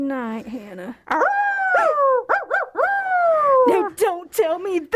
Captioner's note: howl